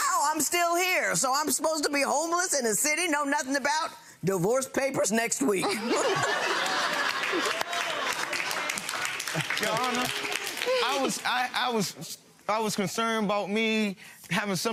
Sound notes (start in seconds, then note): 5.6 laughing; 7.0 clapping